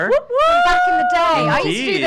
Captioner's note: whooping